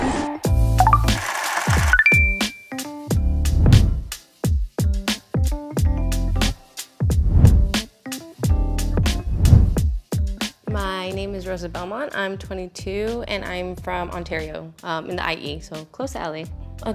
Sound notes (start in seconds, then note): 0.5 lively music; 3.4 transition whooshing